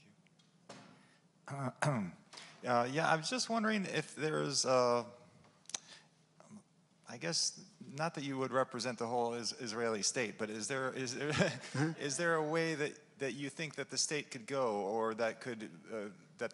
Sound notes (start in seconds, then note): 2.2 clears throat; 11.3 laughs